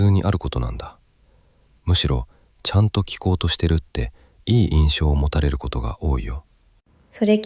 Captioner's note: exhales